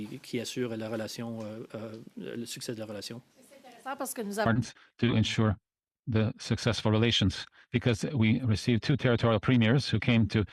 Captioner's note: speaking French